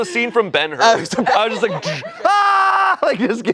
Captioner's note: screams